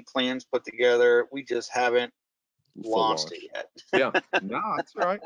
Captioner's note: laughing